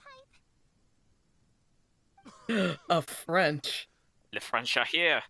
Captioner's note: gasp